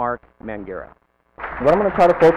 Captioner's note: applause